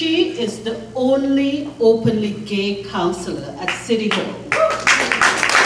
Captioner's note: applause